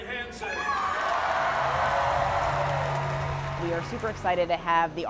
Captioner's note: crowd cheering